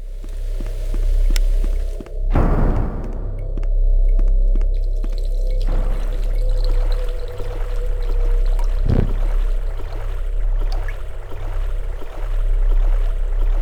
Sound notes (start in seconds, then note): 0.0 rain; 0.2 dark ambient music; 2.2 door slam; 3.3 dark ambient music; 3.3 water dripping; 4.9 dark ambient music; 4.9 water flow; 6.9 dark ambient music